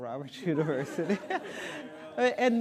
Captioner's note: audience laughing